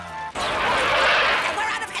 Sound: skidding

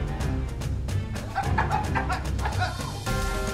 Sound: coughs

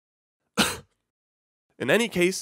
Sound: cough

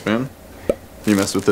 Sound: pop

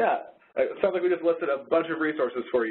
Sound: voiceover

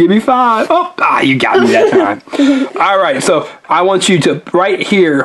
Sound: assistant giggles

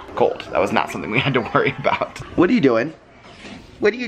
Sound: laughs

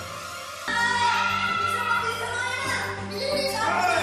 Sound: both screaming

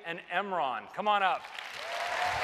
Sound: cheers and applause

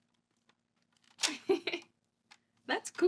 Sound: she opens recorder and laughs

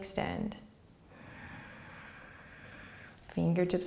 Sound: inhaling

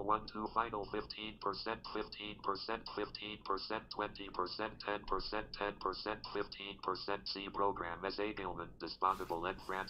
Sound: speaking french

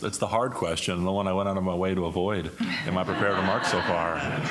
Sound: laughter

